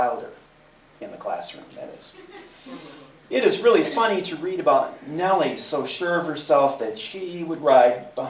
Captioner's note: laughter